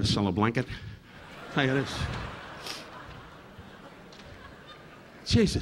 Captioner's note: audience laughing